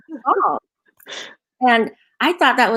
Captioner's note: laughing